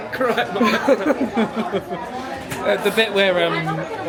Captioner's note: laughing